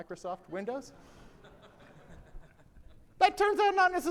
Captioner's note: audience laughs